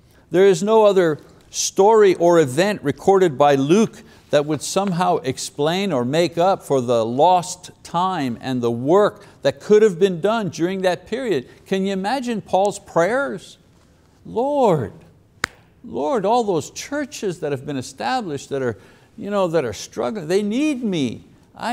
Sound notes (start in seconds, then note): 15.4 claps hands